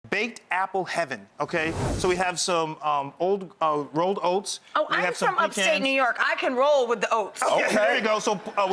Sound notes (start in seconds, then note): 1.6 air whooshing